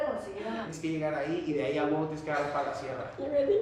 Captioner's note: speaks Spanish